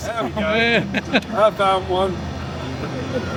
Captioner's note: laughing